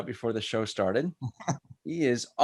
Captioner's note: laughs